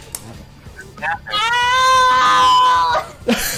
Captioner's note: other player BELLOWING IN PAIN; wheezing with laughter